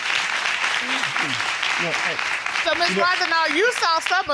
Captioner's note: audience applause